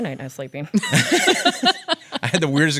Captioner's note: laughs